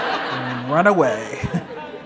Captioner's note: laughter